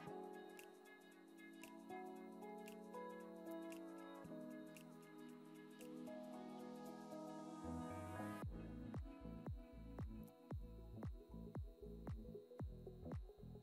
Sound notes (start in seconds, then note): none